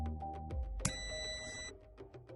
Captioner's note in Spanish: sonido: piiiii